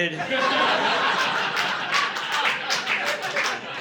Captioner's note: audience laughing